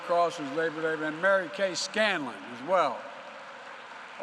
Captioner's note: applause